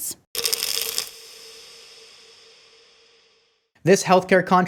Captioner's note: pills rattling